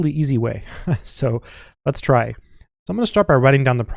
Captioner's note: chuckling